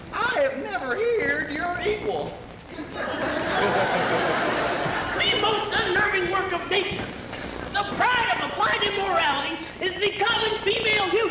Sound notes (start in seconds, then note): 2.7 laughter